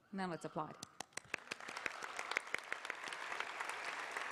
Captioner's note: applause